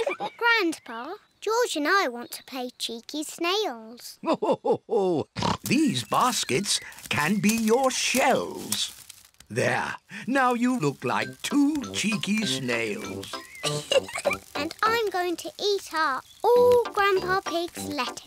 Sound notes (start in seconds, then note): 4.2 laughs; 13.4 laughs